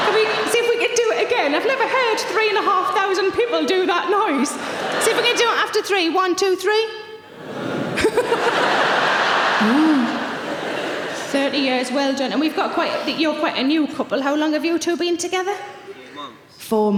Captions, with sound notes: Can we, see if we can do it again? I've never heard three and a half thousand people do that noise. See if we can do after three, one, two, three. (audience huh) 30 years. Well done. And we've got quite, you're quite a new couple. How long have you two been together? - Four months. - Four months.